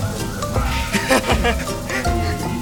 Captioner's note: laugh